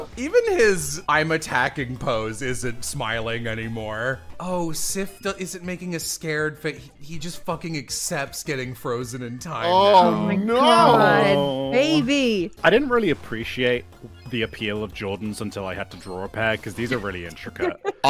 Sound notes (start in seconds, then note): 9.6 overlapping noises of distress